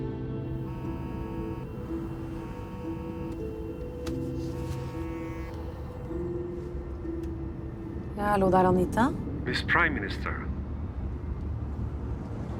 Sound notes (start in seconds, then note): 0.5 mobile vibrating